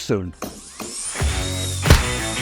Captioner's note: stamp stamping; saw whirring